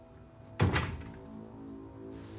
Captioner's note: door closes